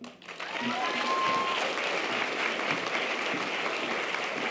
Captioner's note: audience applause